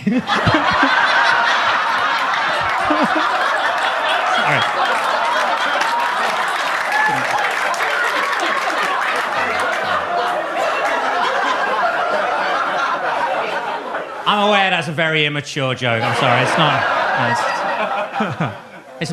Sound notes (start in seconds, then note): 0.2 audience laughs; 5.4 audience cheers; 5.4 audience claps; 15.9 audience laughs